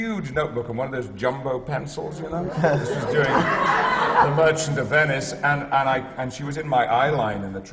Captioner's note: laughter